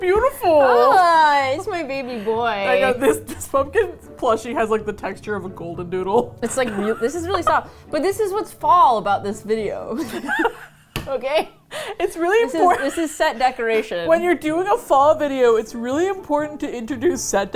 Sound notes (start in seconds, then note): 0.0 both laugh; 6.4 laughs; 10.0 both laugh